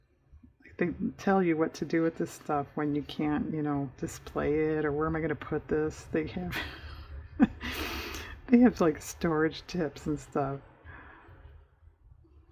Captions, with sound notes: they tell you what to do with this stuff when you can't display it, or where am i going to put this? (laughs) they have like storage tips and stuff